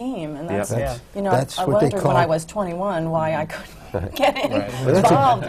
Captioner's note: laughs